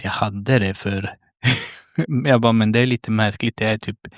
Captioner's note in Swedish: skratt